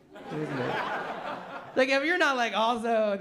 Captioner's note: laughter